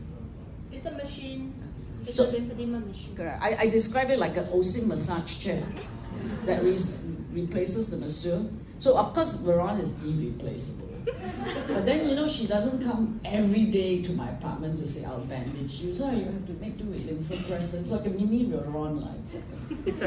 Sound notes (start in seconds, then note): 10.8 laughter